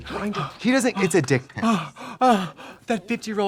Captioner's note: Katya gasping